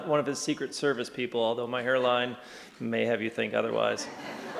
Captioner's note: laughter